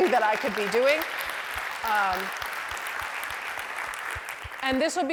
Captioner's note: applause